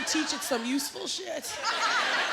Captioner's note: laughter